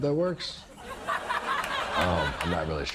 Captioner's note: studio audience laughs